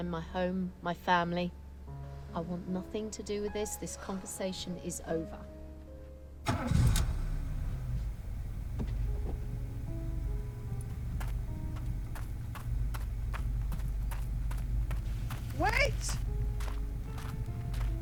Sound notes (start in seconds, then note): 6.9 car engine revs; 12.6 footsteps approaching